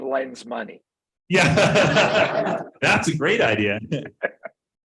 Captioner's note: laughing